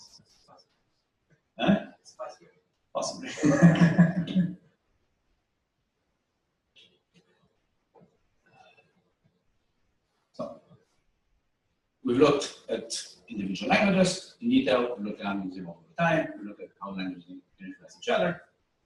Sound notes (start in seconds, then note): 4.8 pause